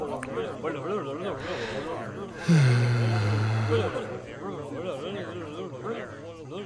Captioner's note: clearing throat; sighing